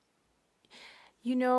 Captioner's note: speaking French